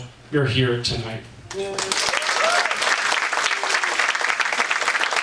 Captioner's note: audience applauds